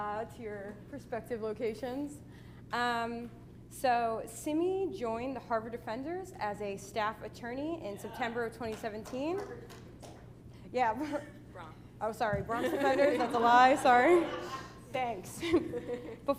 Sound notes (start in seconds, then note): 8.7 applause